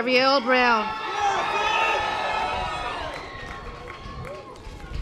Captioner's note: audience applause